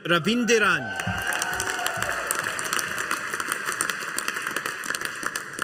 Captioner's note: audience applauding